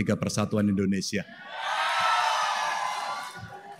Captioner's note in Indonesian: tepuk tangan